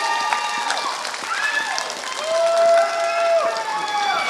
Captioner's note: applause